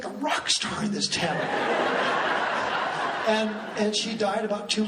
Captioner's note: laughing